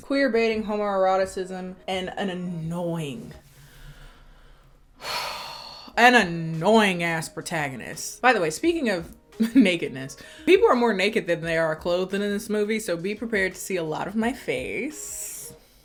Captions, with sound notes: queerbaiting, homoeroticism, and an annoying, (sighing) an annoying-ass protagonist. By the way, speaking of nakedness, people are more naked than they are clothed in this movie. So be prepared to see a lot of my face